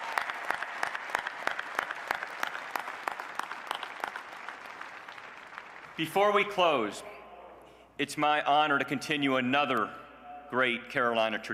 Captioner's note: applause